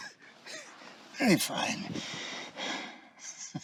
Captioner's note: sighs; chuckling